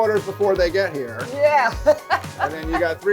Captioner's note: laughs